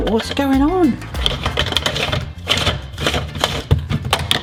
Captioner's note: upbeat music; spiralizer rattling; base rattling